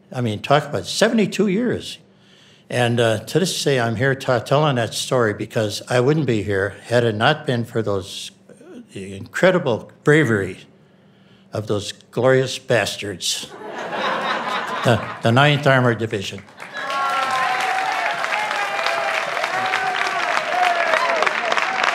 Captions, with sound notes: I mean talk about 72 years. And to this day, I'm here telling that story because I wouldn't be here had it not been for those the incredible bravery of those glorious bastards. (audience laughing) The Ninth Armor division. (audience cheering and clapping)